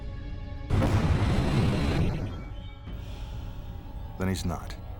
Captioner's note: smoke bomb explodes